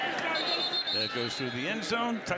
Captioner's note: whistle